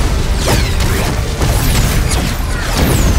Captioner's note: blasts echoing